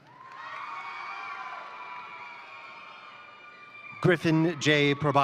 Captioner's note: crowd applauding; crowd cheering